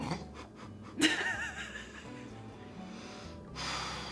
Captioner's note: laughter